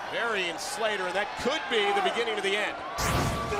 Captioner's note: crowd chatter